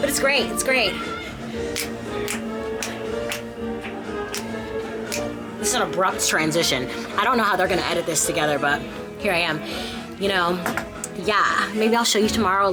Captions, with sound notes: But it's great. It's great. (fingers snapping) (bright music) This is an abrupt transition. I don't know how they're gonna edit this together, but here I am. You know? Yeah. Maybe I'll show you tomorrow